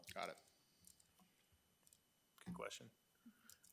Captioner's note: none